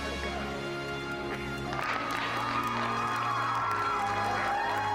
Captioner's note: cheers